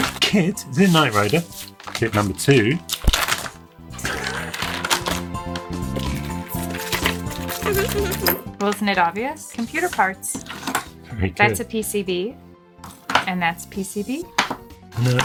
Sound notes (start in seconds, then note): 4.0 laughs